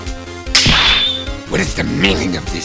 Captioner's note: snap!